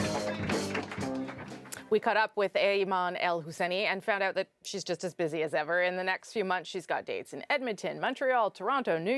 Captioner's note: cheers and applause